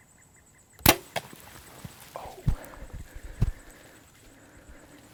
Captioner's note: whispering